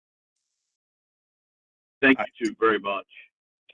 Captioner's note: A pause